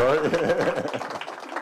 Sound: applause

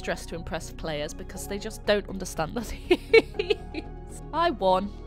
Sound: laughs

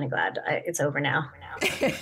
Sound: laughter

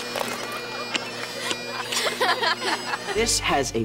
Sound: laughing

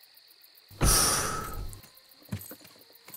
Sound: sighs

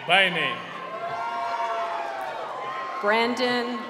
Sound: cheering

